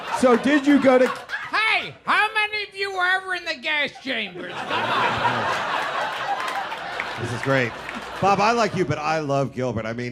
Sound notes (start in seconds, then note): 3.8 people laughing